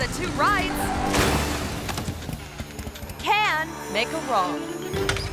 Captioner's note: bikes crashing